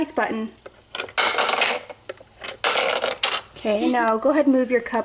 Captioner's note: cup clatters